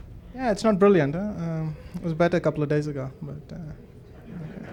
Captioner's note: laughs